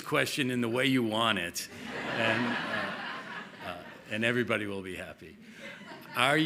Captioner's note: laughter